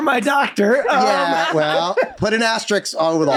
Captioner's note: all laugh